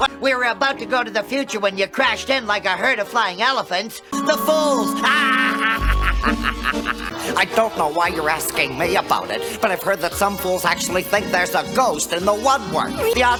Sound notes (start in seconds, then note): 5.0 maniacal laughter